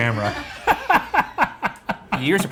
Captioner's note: crew laughing